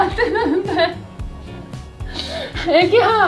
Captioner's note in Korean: 웃음